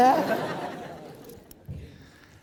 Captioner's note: laughing